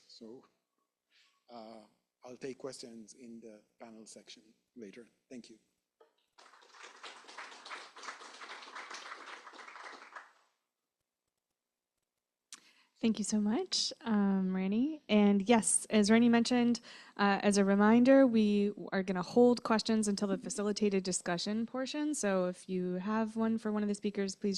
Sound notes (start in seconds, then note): 6.3 applause